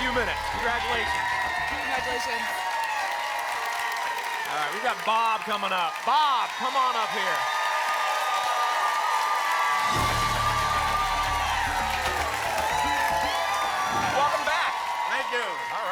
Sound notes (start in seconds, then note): 3.0 applause and cheering; 7.9 applause and cheering cont; 11.8 applause and cheering cont